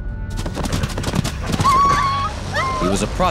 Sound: whining

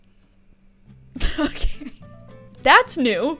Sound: giggles

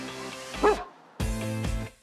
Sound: dog barking

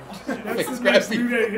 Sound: laugh

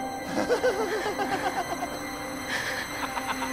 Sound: sinister laughter inside car

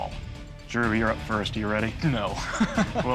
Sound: laughs

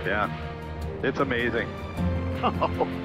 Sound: laughs

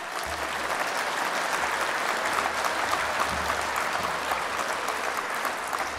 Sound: applause

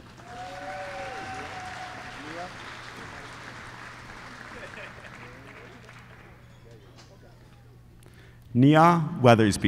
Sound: applause

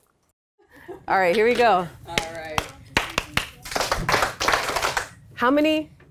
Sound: teacher claps and then echoed by students

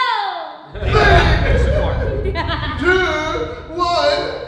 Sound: laughing

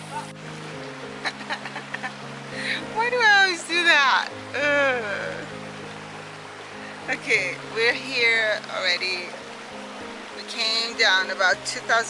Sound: laugh

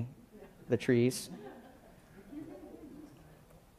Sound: laughing

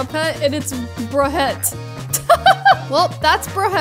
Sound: laughs

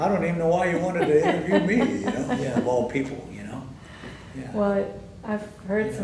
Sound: laughter

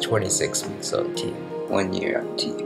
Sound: lower voice

